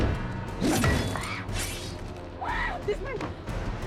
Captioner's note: gasps; screams